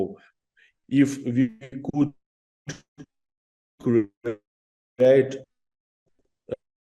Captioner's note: audio distorts